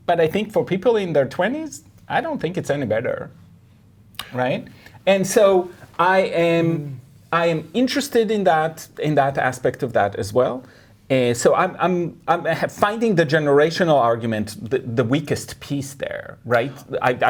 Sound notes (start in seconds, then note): none